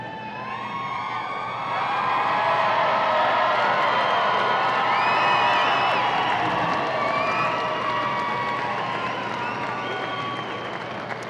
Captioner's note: audience cheering